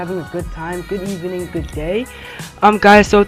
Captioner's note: breathes